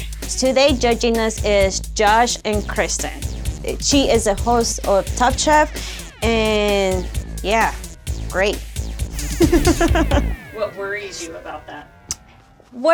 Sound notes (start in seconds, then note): 9.1 laughs